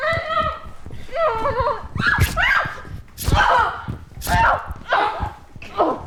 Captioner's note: Jessie screams; knife stabbing